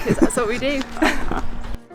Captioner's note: laughter